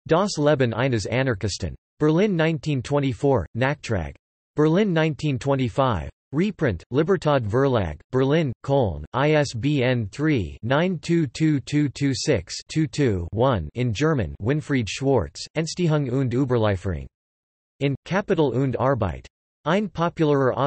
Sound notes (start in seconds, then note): 6.1 in German